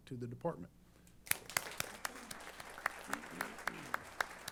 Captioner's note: applause